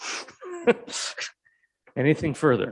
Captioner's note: people chuckling